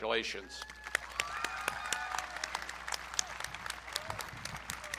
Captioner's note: audience cheering